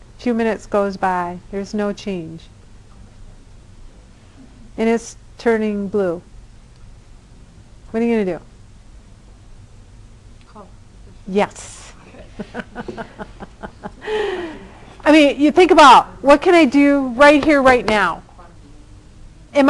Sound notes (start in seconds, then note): 12.0 laughter